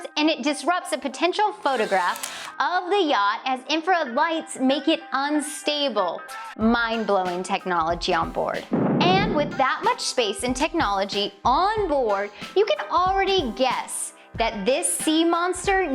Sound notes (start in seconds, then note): 8.7 explosion